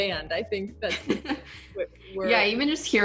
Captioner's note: chuckles